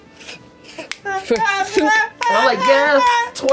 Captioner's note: screaming in rhythm